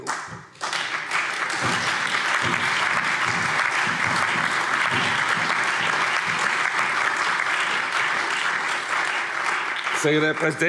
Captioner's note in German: Allgemeiner Beifall